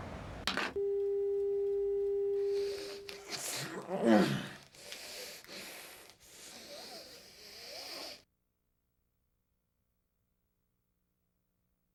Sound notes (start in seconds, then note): 0.7 dial tone blaring; 3.4 Willy groaning